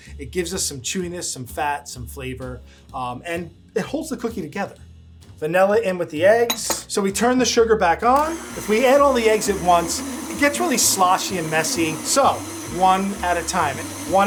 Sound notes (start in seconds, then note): 6.5 metal clinking; 8.1 mixer whirring